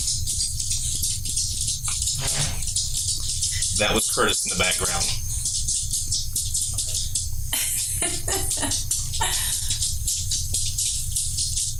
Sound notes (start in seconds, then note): 2.0 chair squeaking; 7.5 laughing; 7.8 Buddy skittering